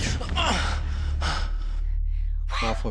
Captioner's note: grunts